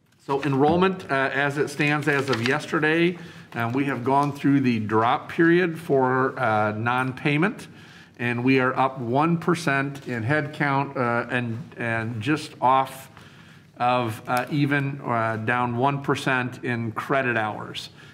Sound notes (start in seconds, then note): none